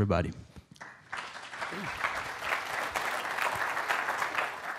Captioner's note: audience applaud